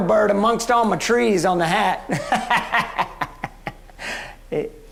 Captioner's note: laughs